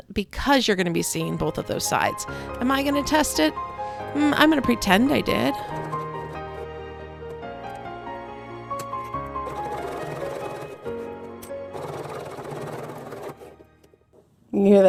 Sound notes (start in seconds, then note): 6.3 gentle piano music; 11.6 sewing machine whirring